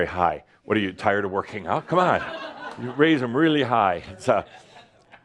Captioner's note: some laughter